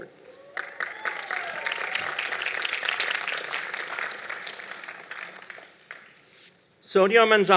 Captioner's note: applause